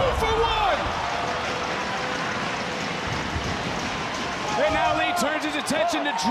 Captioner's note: audience cheering